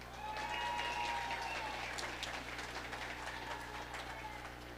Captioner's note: audience applauding